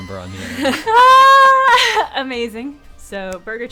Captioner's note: laughing